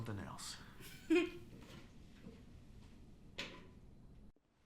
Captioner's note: exhales; Cathryn laughs